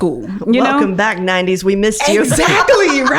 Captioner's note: laughing; laughs